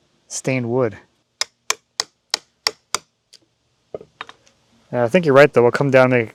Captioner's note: rhythmic tapping